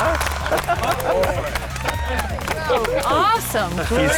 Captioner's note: l lauaughghs s